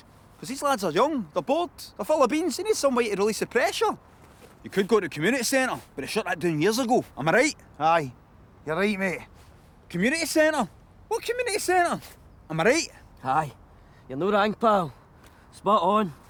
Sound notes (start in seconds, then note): none